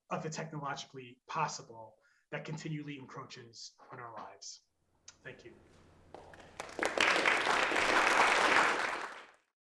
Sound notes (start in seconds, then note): 6.1 applause